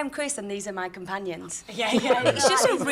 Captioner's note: laughter